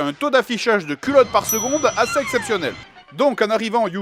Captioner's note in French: ding